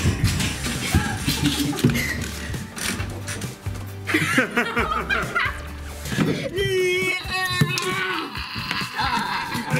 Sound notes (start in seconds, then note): 4.0 laughing; 7.7 groaning